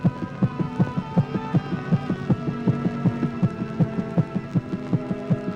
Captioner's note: heart beating rapidly